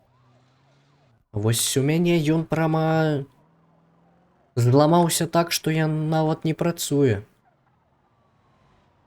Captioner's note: the engine